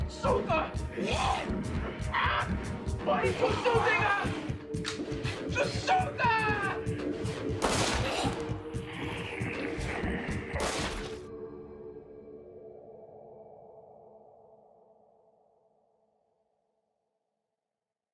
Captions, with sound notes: (snarling) Shoot her! Why aren't you shooting her? Just shoot her! (gunshots booming) (snarling) (gunshots booming) (snarling)